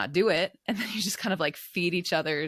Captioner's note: chuckles